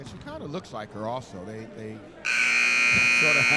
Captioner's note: buzzer sounding